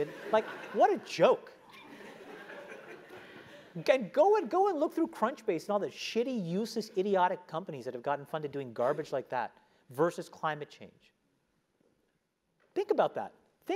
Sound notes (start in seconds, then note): 1.7 laugh